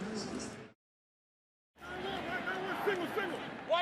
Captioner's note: pa announcement